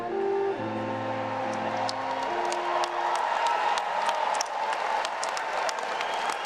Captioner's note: everyone cheering and applauding